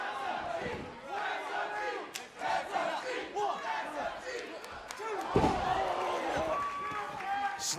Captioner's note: fans chanting